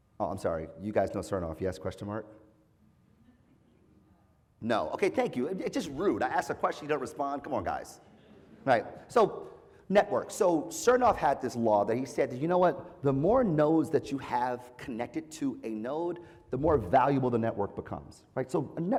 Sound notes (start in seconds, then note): 8.3 laugh